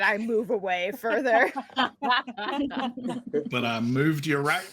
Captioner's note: laughing